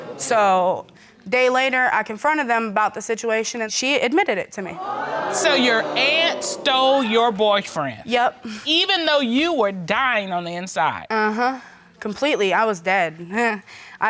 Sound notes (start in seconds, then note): 4.7 audience exclaiming; 13.3 chuckles